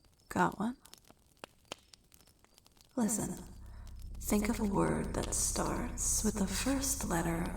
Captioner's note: echoing